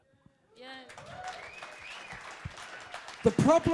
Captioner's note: crowd applauding